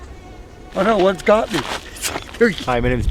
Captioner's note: laughs